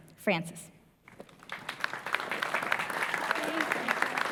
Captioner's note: applause